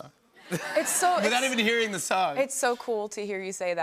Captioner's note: laughter